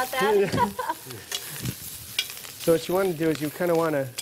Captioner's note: laughter